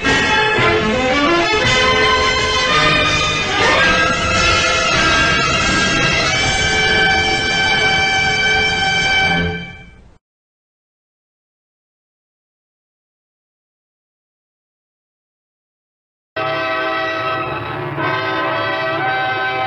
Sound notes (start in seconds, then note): 9.4 silence; 16.4 old-fashioned music plays